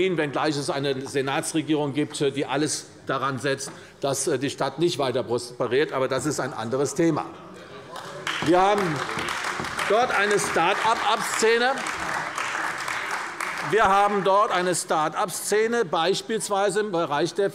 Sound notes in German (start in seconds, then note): 7.9 Beifall bei der CDU